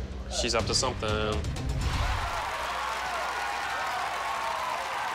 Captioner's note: cheering, whooping